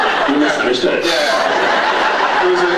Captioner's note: laughs